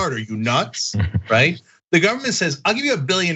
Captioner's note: laugh